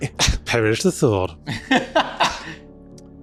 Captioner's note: laughs